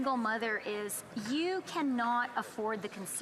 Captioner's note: speaking French